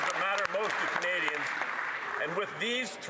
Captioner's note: some Applause